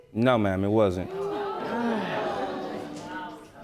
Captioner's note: sighs